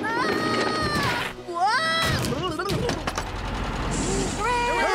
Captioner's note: thud!